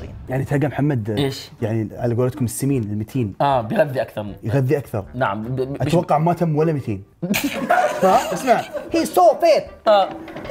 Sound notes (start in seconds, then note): 7.2 laughs